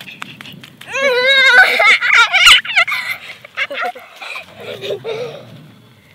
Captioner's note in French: cri et rire d'enfant